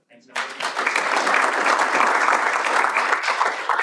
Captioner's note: audience claps